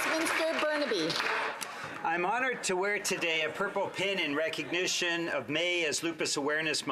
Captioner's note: applause